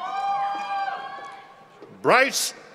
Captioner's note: members of the audience cheer